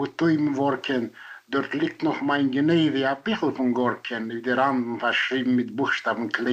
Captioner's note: in Yiddish